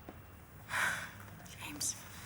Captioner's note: sighs